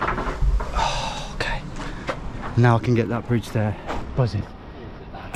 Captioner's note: sighs